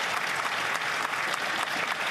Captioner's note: applause